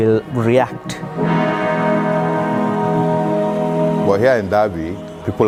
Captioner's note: upbeat music; crowd cheering